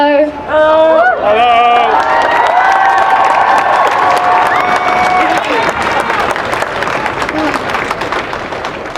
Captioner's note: cheering and applause